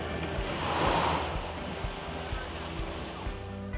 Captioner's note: exhaling